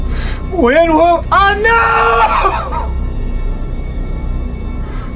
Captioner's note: cries